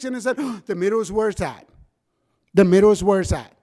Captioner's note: gasps